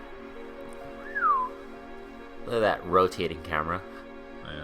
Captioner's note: whistles impressed